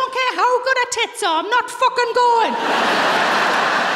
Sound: laughter

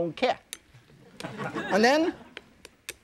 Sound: audience laughs

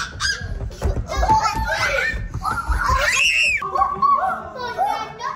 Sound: kids screeching

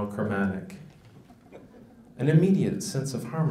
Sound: audience laughs

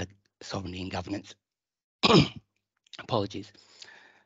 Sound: clears throat

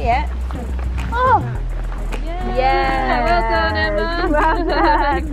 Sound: cheering

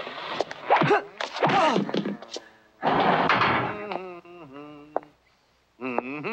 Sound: punches hitting

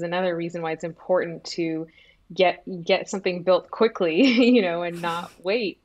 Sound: chuckles

